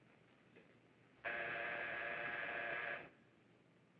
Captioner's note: buzzing